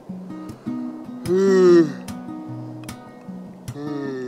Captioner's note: yawns